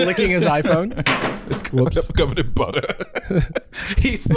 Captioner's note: iPhone clatters